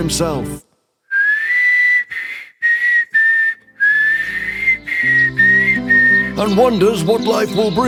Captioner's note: very bad whistling